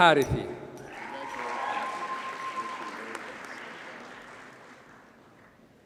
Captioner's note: audience cheers and applauds